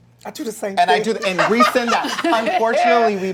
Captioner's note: laughing